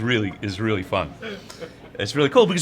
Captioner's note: laughing off-screen